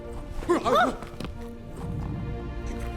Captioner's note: both gasp